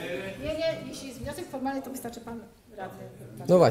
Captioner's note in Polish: dyskusja na sali